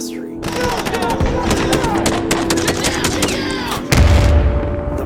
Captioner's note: gunshots blasting; explosion blast